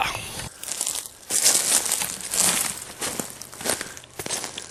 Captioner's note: sound of crunchy leaves being walked on